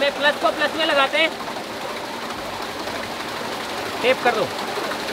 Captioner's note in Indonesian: Suara turbin